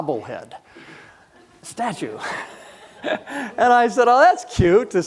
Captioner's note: audience chuckling